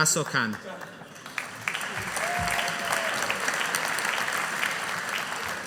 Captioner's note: audience applauding